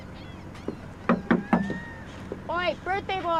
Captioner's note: knocking